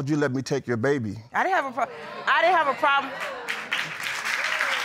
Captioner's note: audience chattering